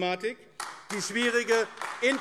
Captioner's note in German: Beifall AfD